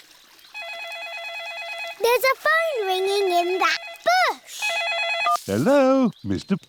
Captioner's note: ringing